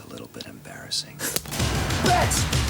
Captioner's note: kick thuds